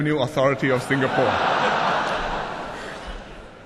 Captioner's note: laughter